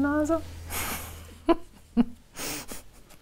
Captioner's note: she laughs softly